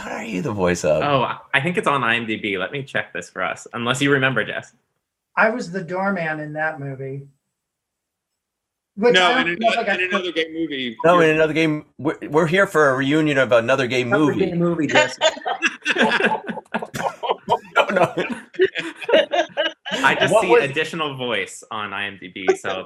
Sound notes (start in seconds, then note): 14.8 group laughing